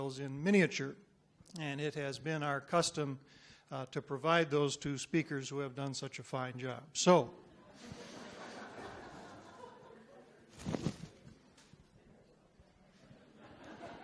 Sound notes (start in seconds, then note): 7.6 audience murmurs